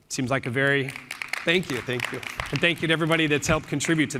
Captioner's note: applause